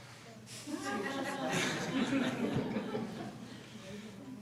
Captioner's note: all laughing